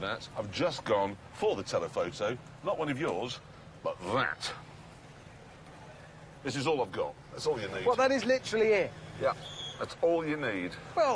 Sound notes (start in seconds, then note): none